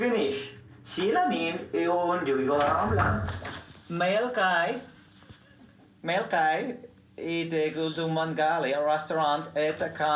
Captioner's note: foreign Language Spoken